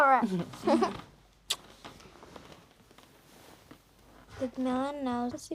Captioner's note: both laughing